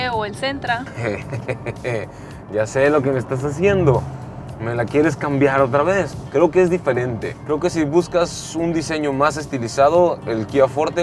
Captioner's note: laughs